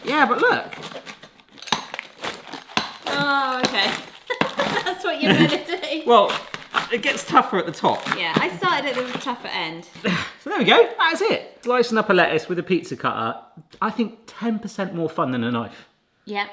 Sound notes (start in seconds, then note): 1.6 pizza cutter thumps; 2.1 lettuce crunches; 4.2 laughs; 10.6 grunts